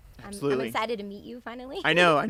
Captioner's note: laughs